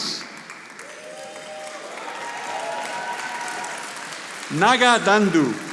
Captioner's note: audience applauding